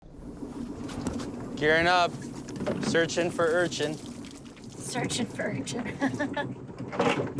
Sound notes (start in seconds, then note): 0.0 waves rippling